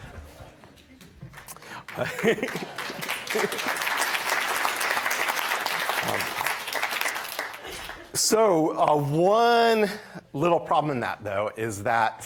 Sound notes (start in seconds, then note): 1.9 laughter; 4.7 applause